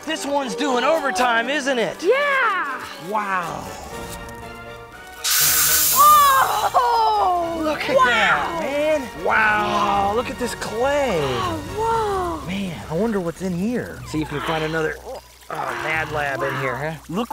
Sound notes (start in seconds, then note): 5.3 smoke sizzling